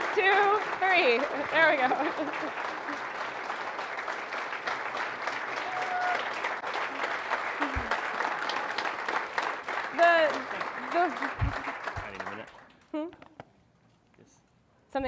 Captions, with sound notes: One, two, three, there we go (laughs). (audience applauding) The. Hmm?